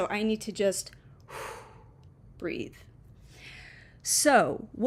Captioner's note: audibly breathes out